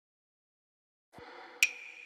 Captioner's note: sound effect